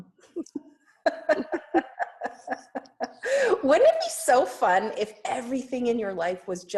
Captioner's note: laughs